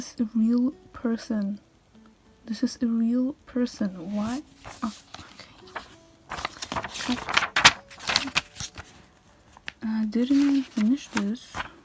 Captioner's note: deep breath